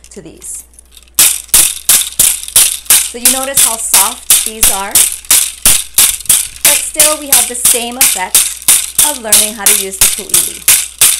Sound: bamboo sound

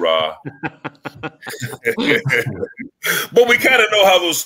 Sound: laughs

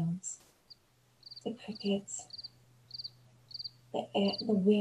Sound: cricket sound effect

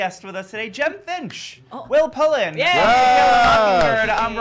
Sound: cheering

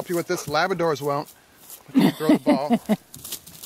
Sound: woman laughs

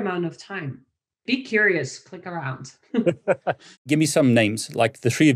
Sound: laughs

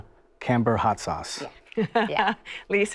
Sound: laughs

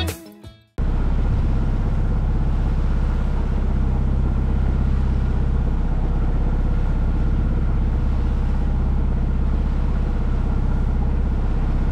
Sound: motoring noise

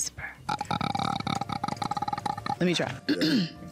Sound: Trevante croaking; clearing throat

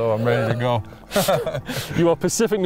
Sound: laughter

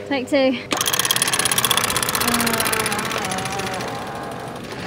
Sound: rope cranked

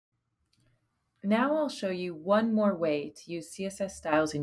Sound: voiceover

